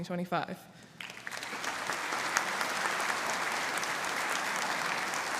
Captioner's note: audience applauding